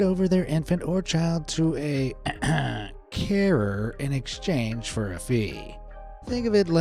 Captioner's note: clears throat